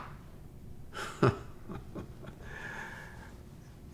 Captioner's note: laughs